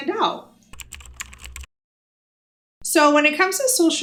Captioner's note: keyboard clicking